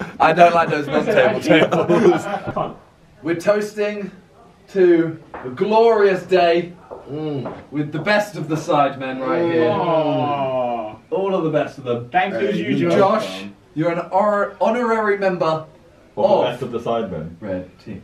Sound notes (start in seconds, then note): 0.0 laughing